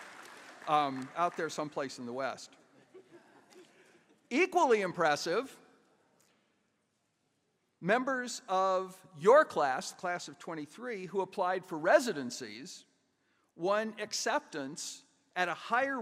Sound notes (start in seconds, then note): 2.8 chuckles